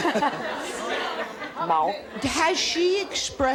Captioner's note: chuckles